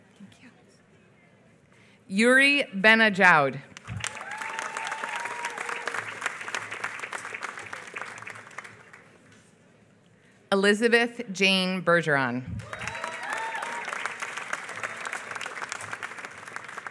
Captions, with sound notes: Thank you. Youri Benadjaould. [APPLAUSE] Elizabeth Jane Bergeron. [APPLAUSE]